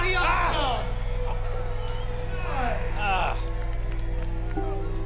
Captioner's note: audience cheering